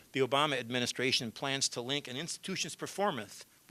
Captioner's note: none